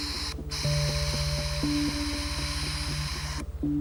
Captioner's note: drill buzzes